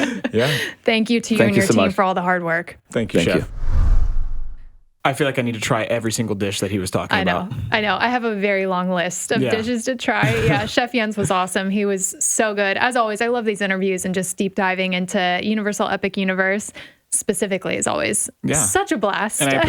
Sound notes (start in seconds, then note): 3.2 air whooshes